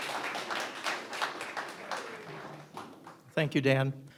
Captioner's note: audience applauding